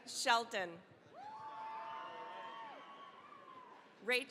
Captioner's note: cheering, applause